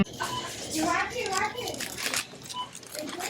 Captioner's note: background conversation